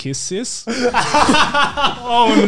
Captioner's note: laughing